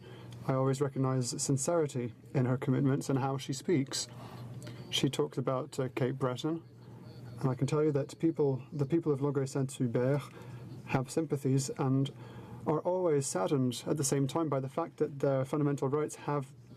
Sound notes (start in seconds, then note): 0.0 speaking in french; 6.7 speaking in french